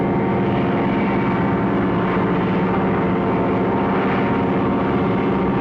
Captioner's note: plane buzzing